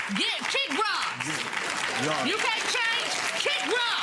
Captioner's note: audience clapping